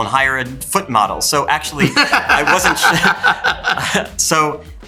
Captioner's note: Kieran laughs